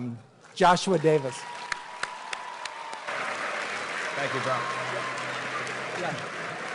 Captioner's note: applause and Cheering; cheering and Applause